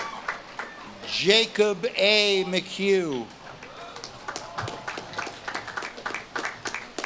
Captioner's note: audience claps and cheers